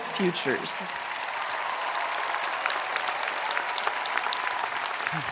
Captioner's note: spectators applauding